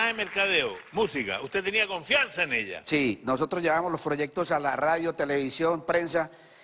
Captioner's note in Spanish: aplausos